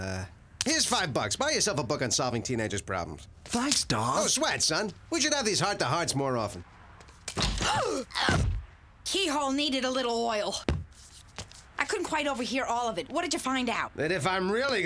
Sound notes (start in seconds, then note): 7.6 <i>gasps and grunts</i>